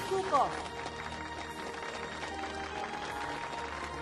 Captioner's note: crowd clapping